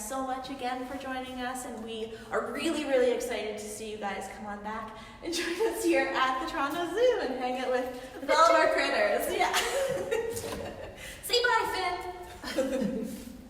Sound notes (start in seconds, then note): 9.3 laughing